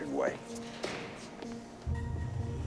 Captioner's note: footstep